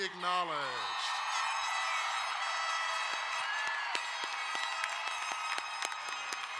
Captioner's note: crowd cheering and applauding